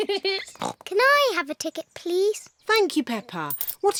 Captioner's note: giggles; oinks